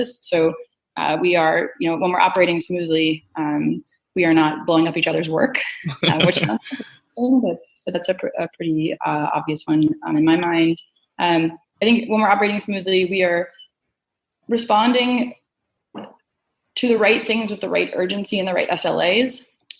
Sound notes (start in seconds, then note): 5.8 laughing